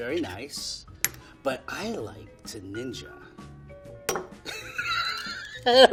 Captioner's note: laughing